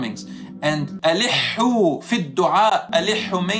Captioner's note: Arabic